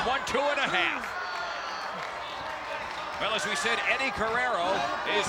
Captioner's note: applause